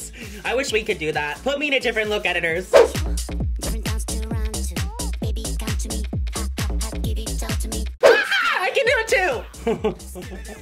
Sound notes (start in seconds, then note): 8.2 squeals; 9.6 chuckles